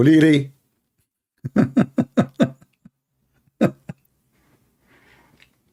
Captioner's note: Ketawa